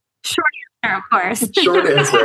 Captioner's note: laughter